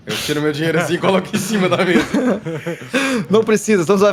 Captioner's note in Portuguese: Risadas